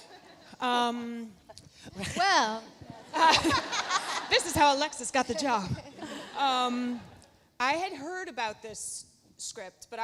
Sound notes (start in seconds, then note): 0.3 Kelly speaking faintly; 2.7 laughs; 3.0 Lauren laughs